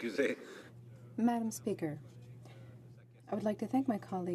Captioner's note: speaking French